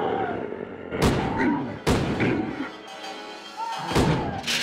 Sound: Donald growls; gun fires

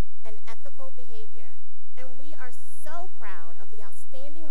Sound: none

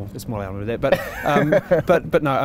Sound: laughing

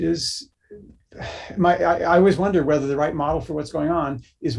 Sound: sighs

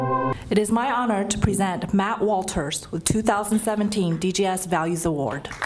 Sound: applause

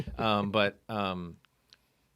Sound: laughing

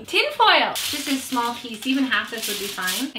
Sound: foil rustling

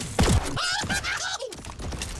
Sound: manical laughter

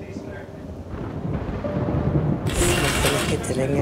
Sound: thundering

